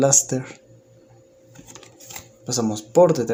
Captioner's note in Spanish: Silencio